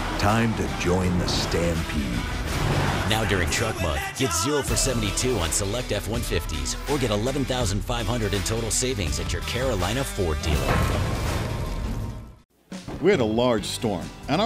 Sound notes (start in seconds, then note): 3.1 voiceover; 10.6 clanging; 13.1 voiceover